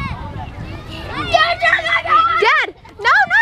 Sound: yelling

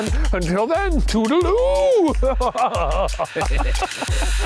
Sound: laughs

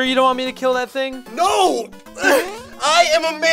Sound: whimpers

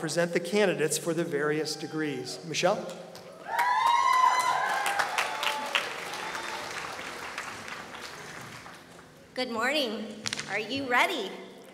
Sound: applause

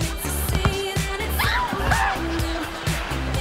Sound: screaming

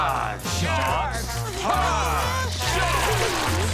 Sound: whimpering

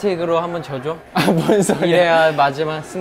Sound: laughing

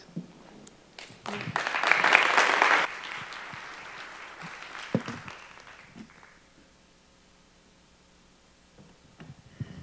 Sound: applause

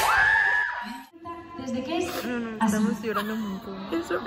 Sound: crying of emotion

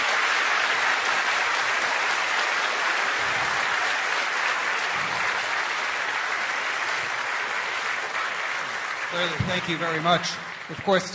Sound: applause

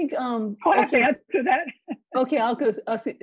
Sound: chuckles

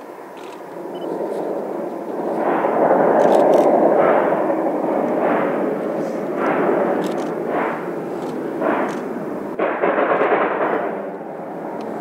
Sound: HEAVY locomotive chugging

